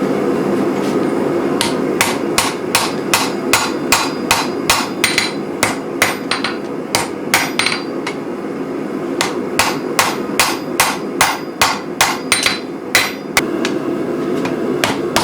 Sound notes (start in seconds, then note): 1.6 hammering steel